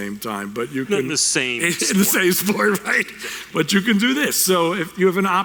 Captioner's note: laughing